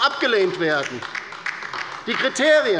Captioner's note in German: Beifall bei der LINKEN